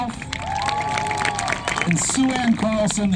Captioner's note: clapping